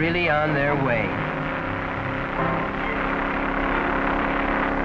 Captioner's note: hot rods revving